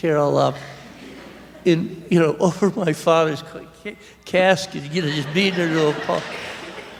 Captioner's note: laughter